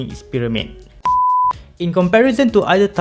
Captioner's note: beep